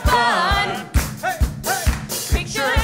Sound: claps

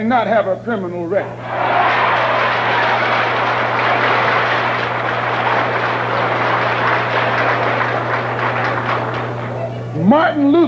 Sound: thunderous applause

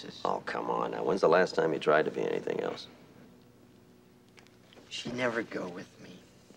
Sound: none

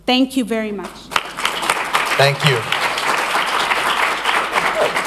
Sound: applause

